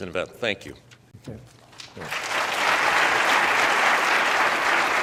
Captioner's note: audience applauds